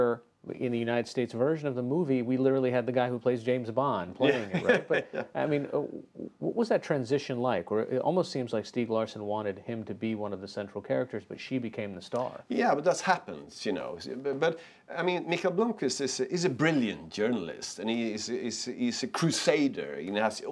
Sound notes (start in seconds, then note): 5.8 laughter